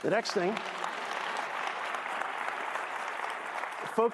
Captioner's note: applause